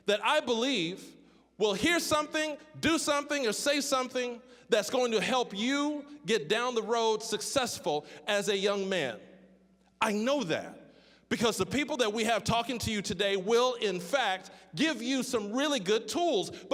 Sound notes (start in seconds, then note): none